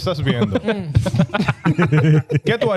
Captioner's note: laughing; speaking In Foreign Language